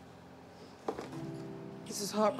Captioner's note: traffic whooshing; book thudding